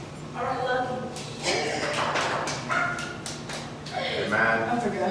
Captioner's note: applause